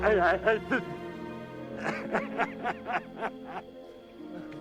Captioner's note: Schindler sobbing; somber music